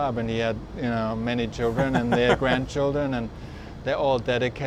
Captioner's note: laughs